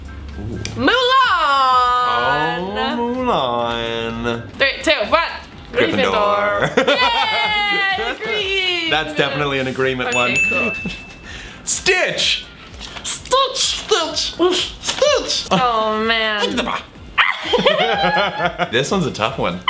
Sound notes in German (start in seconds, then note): 6.4 lacht; 17.1 lacht